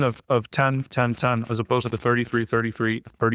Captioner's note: chuckles